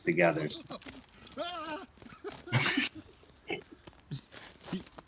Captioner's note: yelping